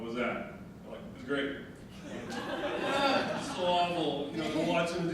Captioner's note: audience laughing